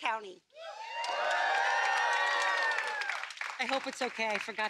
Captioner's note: applause